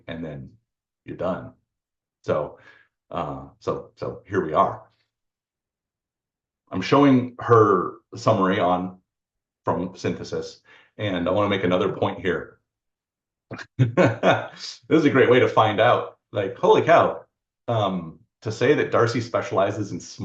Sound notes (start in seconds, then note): 13.5 laughs